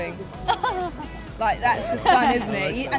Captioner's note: laughs